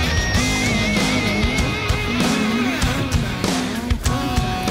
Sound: voices distorting

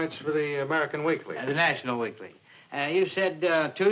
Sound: none

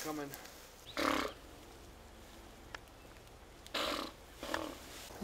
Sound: makes another raspberry with his mouth

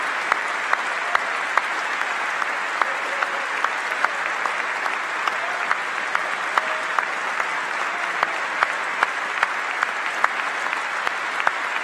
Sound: applause

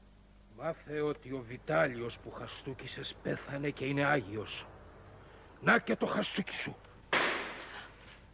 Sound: slap

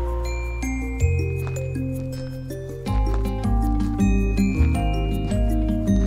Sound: footsteps crunching

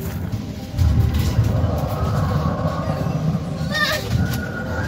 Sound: growling

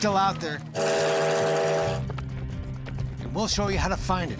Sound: train horn tooting

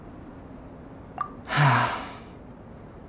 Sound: sigh

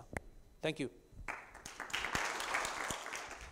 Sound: audience applause

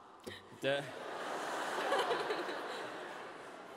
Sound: laughter

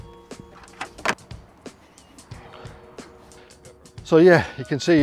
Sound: strap banging

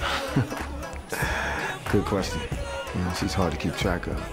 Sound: chuckling lightly

